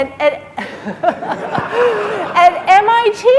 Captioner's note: laughing